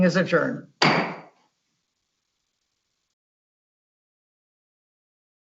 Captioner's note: gavel hitting table